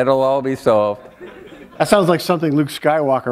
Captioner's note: laughter